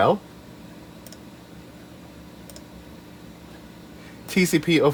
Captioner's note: clicks mouse in excitement